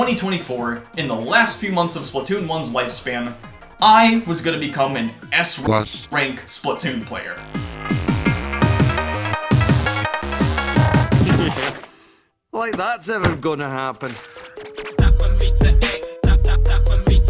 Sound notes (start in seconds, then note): 11.2 laugh